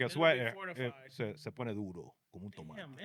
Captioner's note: speaking In Foreign Language